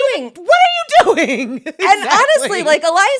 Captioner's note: laughs